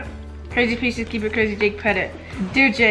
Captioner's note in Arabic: تتحدث gibberish